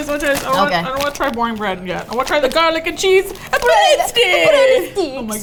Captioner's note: attempting Italian accent